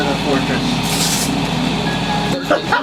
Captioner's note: ripping sound